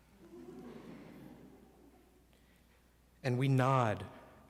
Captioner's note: audience laughs